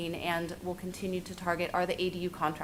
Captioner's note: none